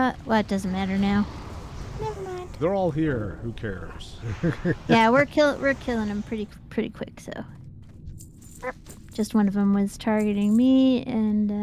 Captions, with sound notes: Well, it doesn't matter now. Never mind. They're all here. Who cares? [LAUGHS] Yeah, we're kill-- we're killing them pretty quick, so. Just one of them was targeting me, and--